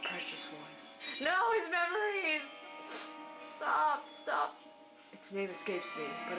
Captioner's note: sniff